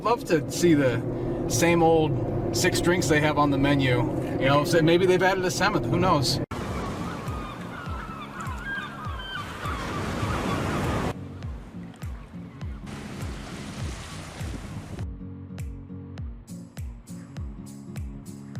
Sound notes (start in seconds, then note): 6.5 gulls squawking; 8.8 waves crashing; 11.1 upbeat music